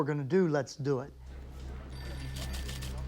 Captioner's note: phone ringing